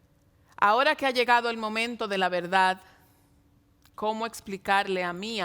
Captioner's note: speaking in Spanish